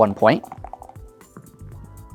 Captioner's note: dice rattling; dice rolling